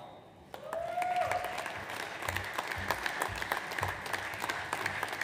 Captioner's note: audience applauds